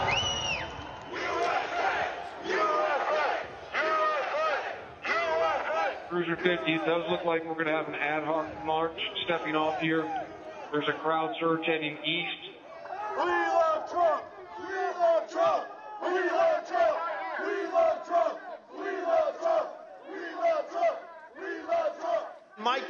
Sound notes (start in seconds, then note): 4.9 chanting "usa"